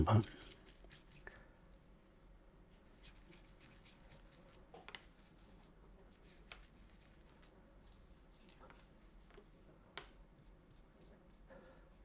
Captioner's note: silence